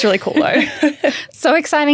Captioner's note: both laughing